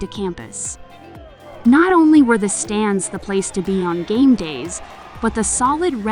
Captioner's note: football game ambience